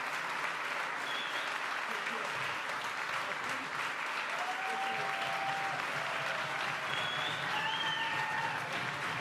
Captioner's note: applause